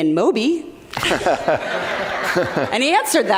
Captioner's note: audience laughs